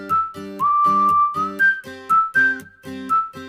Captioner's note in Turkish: ıslık çalar